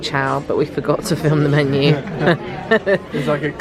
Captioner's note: laughs